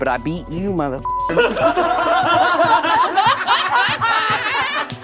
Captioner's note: all laughing